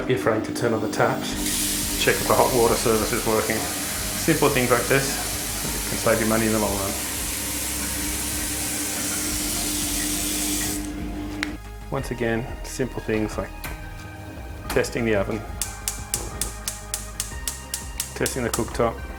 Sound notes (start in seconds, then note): 7.6 peaceful music; 8.7 water running; 15.3 stove pilot clicking